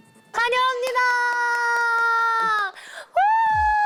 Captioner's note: clap